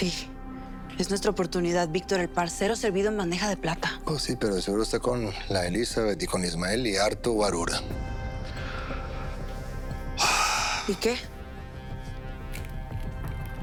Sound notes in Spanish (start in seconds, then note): none